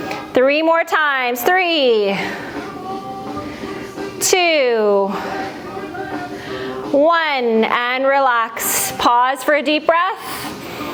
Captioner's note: breath